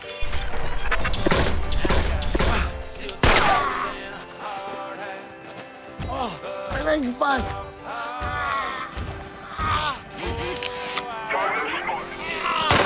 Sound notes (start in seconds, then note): 0.2 gunshots blasting; 10.1 robot whirring; 12.0 automated Voice